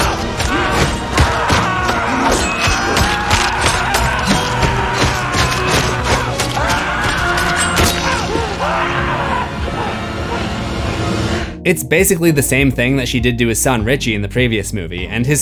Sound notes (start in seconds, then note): 10.7 screams